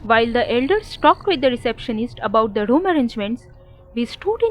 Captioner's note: car engine stopping sound